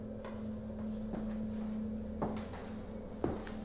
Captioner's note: footsteps